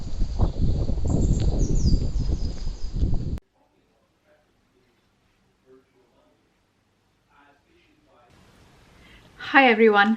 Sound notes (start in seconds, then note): 0.0 wind noise; 3.1 painting sounds